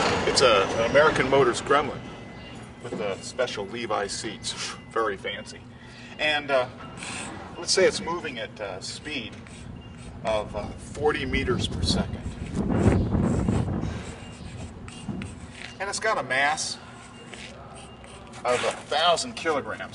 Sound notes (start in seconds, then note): 5.9 intermittent beeping